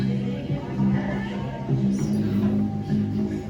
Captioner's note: door creaking